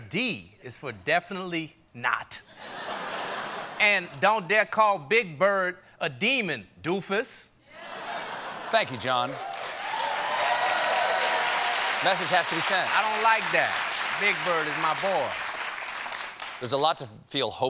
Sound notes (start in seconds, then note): 11.7 cheers and applause